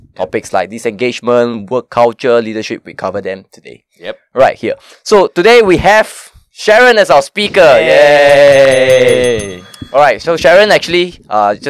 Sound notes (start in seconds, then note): 8.3 ring ring